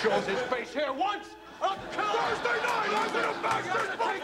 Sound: shouting angrily

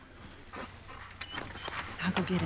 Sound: dog whimpering

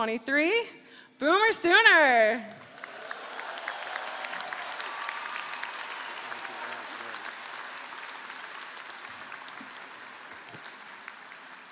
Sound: applause

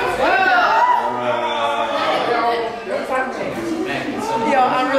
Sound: audience cheering

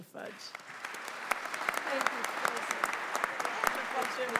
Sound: audience applauding

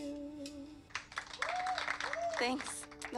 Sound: audience applauding and cheering

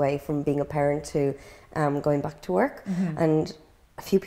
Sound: gasps

